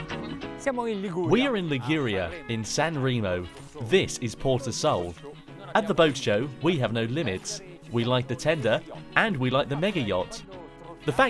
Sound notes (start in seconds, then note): 0.5 speaking foreign language